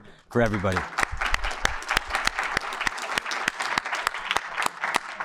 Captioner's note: audience applauding